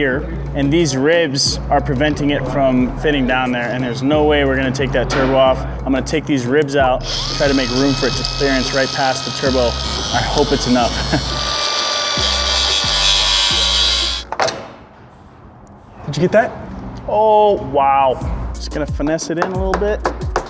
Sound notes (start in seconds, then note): 11.2 electric tool grinding; 19.4 hammering